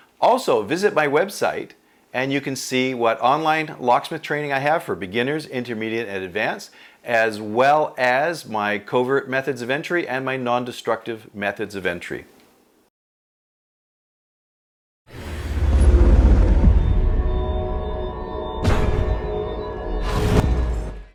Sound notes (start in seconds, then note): 15.1 low droning; 18.7 banging; 18.7 low droning